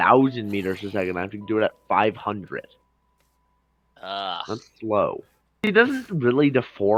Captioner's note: ughhh